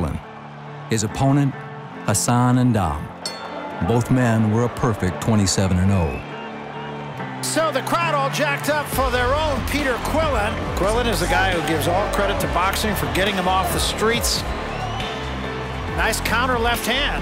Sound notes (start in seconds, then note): 14.4 cheers and applause